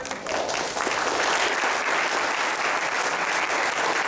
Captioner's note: applause